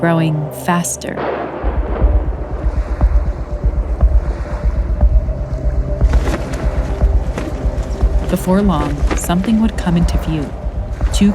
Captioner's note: soundbite of thunder clapping